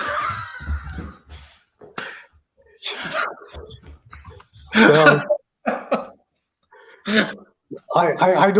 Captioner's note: laughter